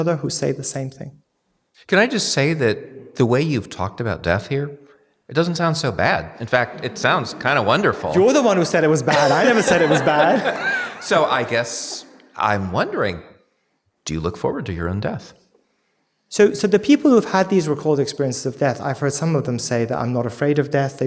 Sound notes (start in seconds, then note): 10.3 audience laughing